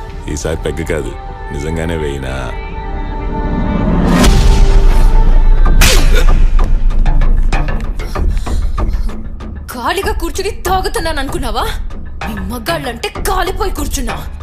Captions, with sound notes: Not peg this time. [slaps] Do you think, I'm just wasting my time by boozing? I'm drinking as I'm pissed off by you men.